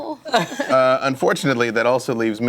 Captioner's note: laughter